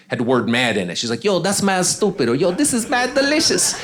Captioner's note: audience laughing